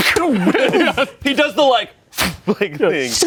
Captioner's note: everyone laughs